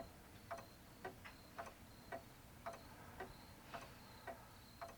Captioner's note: clock ticking